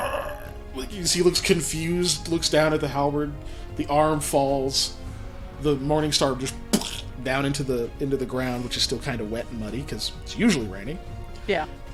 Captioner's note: plunk